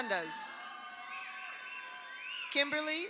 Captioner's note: audience applauds; audience cheers